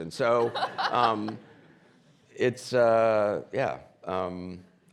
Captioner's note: laughs